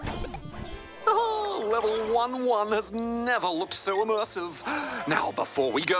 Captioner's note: chuckles